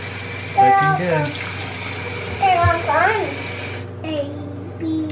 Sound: mumbles

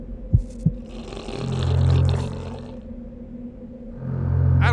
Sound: heartbeat thumping; zombie growls

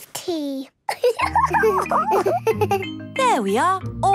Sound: giggles

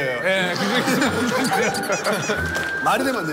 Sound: laugh

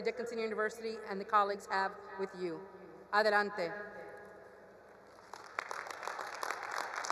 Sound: speaks foreign language; attendees applauding

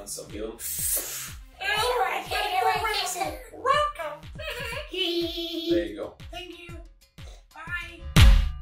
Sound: little kid voices blabbering

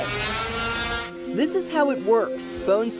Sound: saw buzzes

